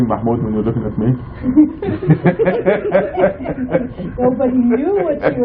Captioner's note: laughing